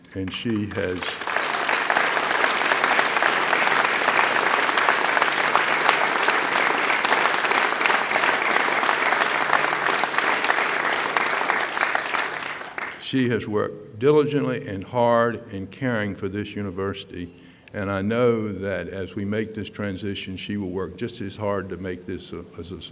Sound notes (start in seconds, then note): 6.8 applause